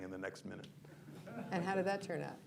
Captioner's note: laughter